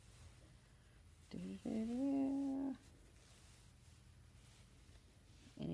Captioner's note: light humming